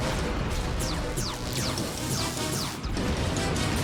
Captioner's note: weapons fire, successive explosions